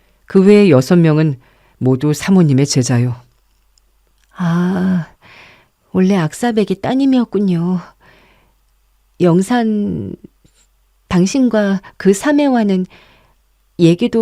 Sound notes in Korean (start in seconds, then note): 4.3 한숨